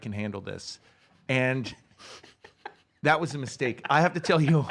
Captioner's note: laughs